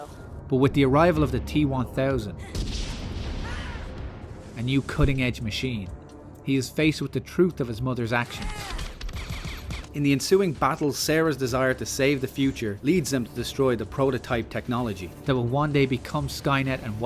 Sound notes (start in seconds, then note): 2.5 boom; 8.7 rapid fire pistol shots